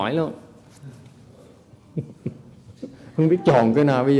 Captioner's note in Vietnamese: laughing